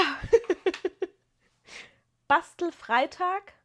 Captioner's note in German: gelächter